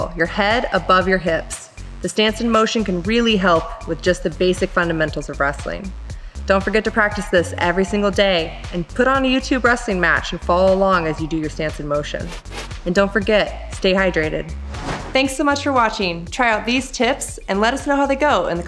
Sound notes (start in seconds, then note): 12.2 swoosh; 14.5 swoosh